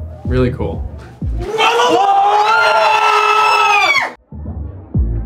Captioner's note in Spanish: screaming